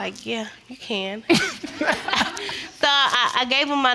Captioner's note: audience laughing